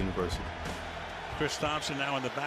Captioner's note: crowd cheers